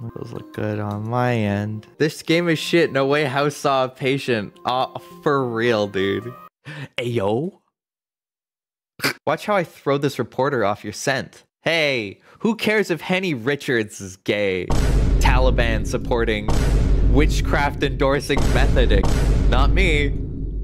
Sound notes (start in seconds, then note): 6.6 gasps; 8.7 snicker; 14.7 vineboom; 18.3 vineboom